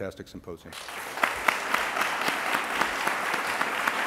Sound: applause

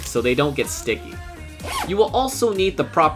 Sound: unzip

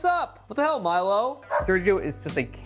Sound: dog barks

